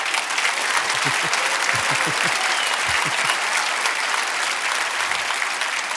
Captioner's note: audience laughing; audience applauding; chuckling